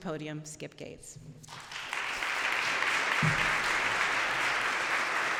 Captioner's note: applause